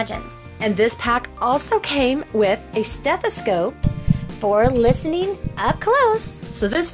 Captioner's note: sound of beating heart